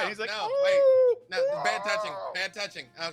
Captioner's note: groans